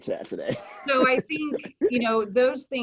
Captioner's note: laughing